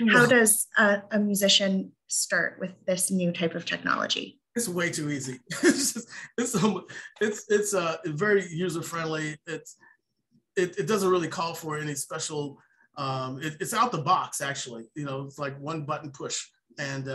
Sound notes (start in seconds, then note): 4.7 laughs